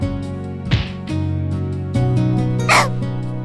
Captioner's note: gulped